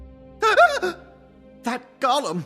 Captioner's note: gasp